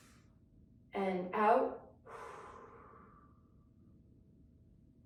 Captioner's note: inhales deeply; exhales deeply